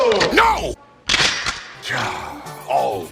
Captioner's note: bolt releases; sigh